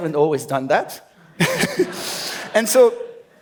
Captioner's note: laughs